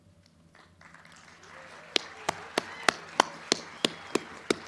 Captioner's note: crowd cheering